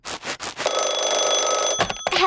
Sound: phone ringing

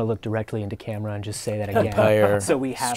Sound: laughter

